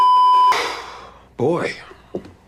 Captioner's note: exhale